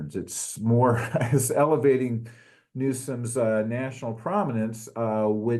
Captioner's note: laugh